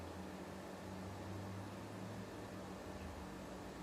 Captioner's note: none